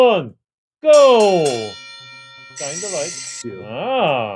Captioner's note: bell ringing